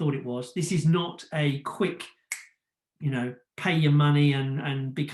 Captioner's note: finger snaps